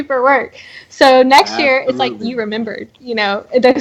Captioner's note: laughing